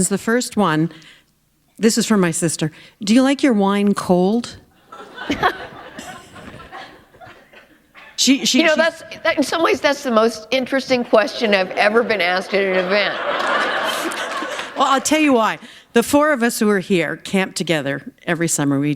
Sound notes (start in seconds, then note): 5.9 chuckle; 13.9 laughter